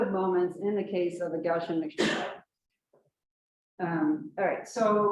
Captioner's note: coughs